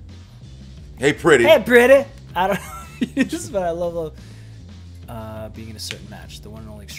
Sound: laugh

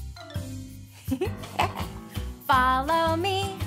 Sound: chuckling

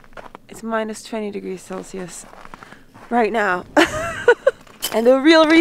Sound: laughs

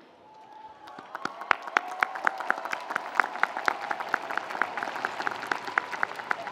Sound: audience cheering; audience applauding

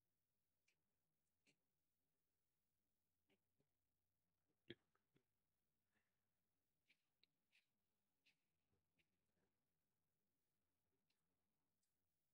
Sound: silence

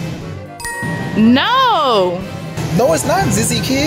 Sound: chiming

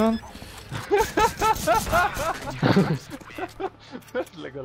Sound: laughing

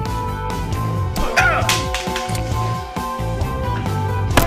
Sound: men grunting

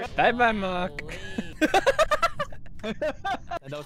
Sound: laughter

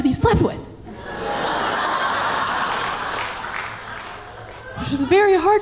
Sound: audience laughing

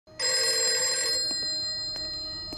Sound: phone rings

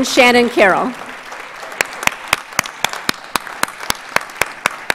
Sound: audience applauds

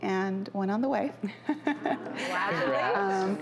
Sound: laughing

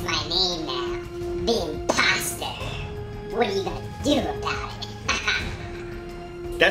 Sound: laughs

